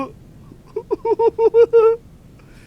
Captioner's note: nervous laughter